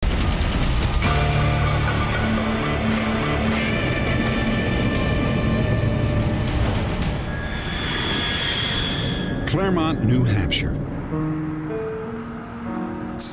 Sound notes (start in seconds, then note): 6.9 high-pitched screech